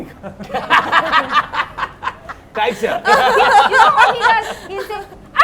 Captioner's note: laughs